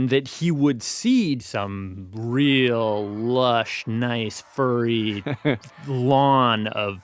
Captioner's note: laughs